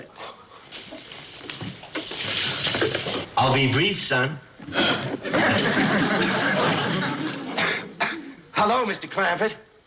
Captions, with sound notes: But it's Mr. Clampett. I'll be brief, son. (coughs)